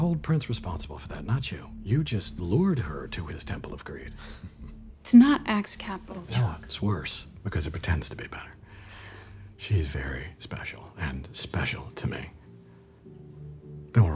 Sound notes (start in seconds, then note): 4.2 chuckle